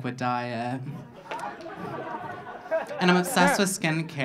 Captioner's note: audience laughing